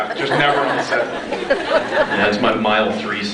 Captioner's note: laughs